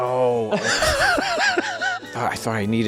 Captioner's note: laughing